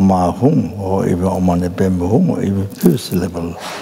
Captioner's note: speaks in Tibetan